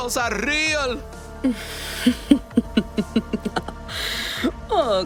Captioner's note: Señora Miranda laughs